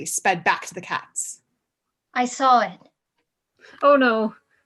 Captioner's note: calmly